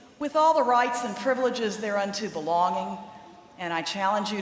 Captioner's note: none